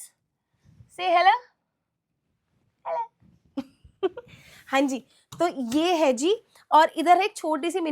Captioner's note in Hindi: हंसी